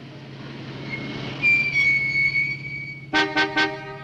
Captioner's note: car breaks squeal; car horn honks